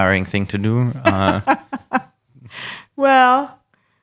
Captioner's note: laughing